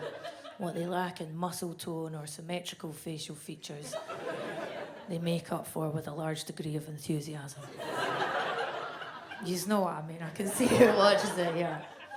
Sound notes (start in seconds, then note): 7.7 audience laughs